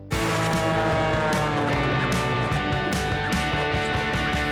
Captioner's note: plane soaring